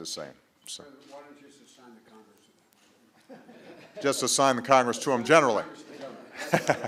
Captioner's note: laughter